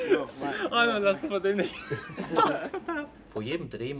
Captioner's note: laughs